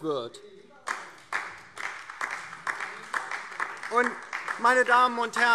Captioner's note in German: Beifall DIE LINKE